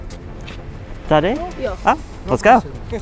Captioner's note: child speaking in foreign language; speaking in foreign language